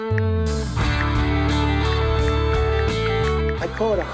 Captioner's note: ticking